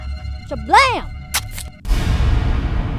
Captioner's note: knife slices; intense music